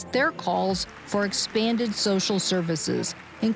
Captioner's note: distant applause